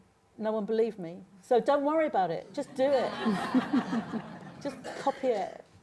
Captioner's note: laughter